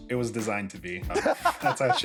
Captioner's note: laughter